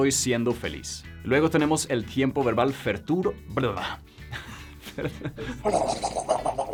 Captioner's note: laughs